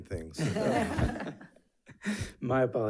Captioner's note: board members laughing